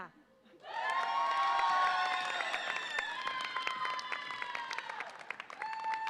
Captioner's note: audience applauds and cheers